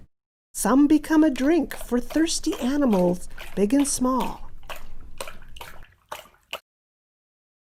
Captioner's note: slurping sounds